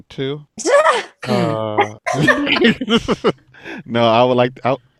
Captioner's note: all laughing